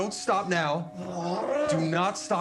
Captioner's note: grunting